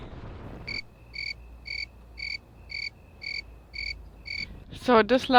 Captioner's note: crickets chirping